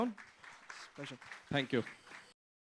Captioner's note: applause